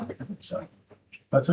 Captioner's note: laughing